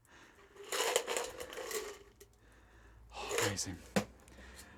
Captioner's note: ice clinking